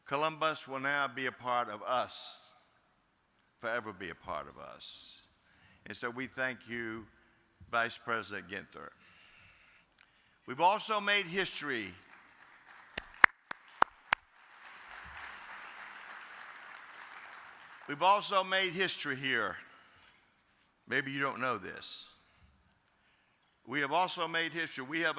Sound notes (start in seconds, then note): 12.0 audience applauding